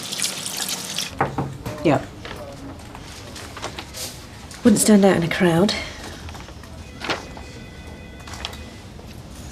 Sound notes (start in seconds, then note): 1.2 door knocking